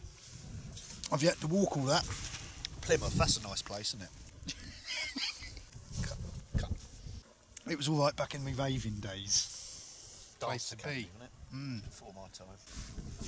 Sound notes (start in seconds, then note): 4.4 laughs